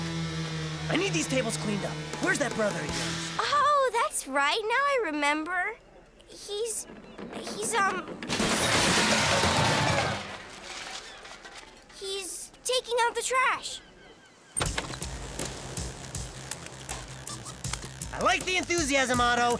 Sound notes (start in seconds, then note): 8.0 big crash